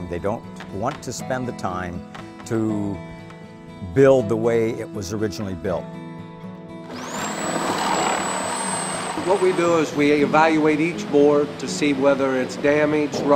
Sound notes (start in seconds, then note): 6.8 sound of saw cutting wood